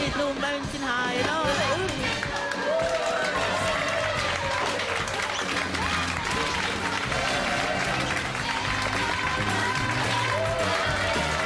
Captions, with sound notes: â™ª Ain't no mountain high enough â™ª (ALL CHEERING)